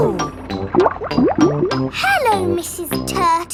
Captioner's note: bubbling